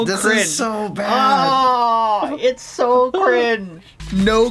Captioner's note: screams in cringe